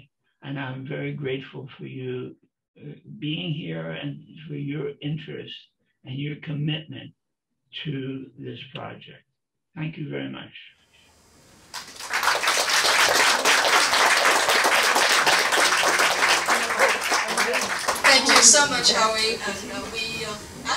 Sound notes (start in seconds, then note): 11.7 applause